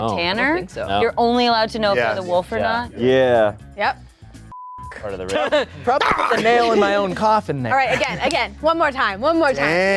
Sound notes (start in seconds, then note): 4.5 beep